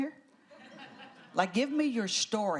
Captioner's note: laughter